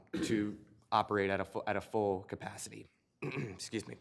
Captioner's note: clears throat